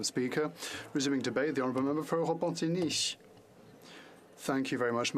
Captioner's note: speaking French